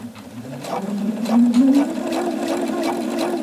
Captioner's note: rattling